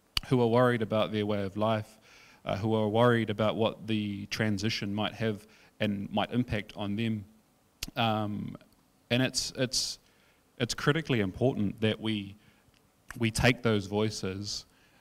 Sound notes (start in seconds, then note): none